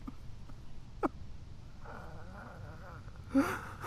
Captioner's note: Brian sobbing